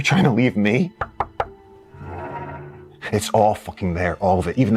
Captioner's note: knuckles rapping